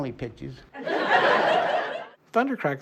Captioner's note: laughter